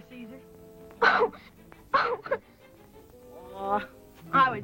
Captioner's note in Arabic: بكاء